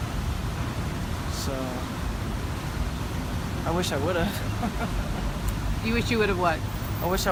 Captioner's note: laugh